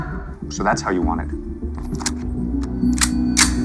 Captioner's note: cocking gun